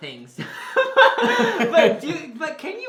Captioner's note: both laugh